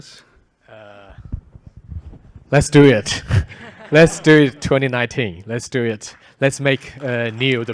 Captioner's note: applause